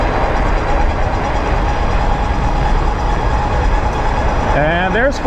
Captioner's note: motor running